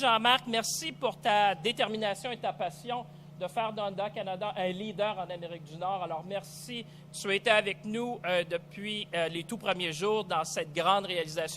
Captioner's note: speaks French